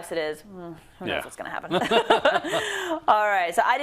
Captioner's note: laugh